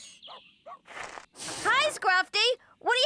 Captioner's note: Scruffty Barking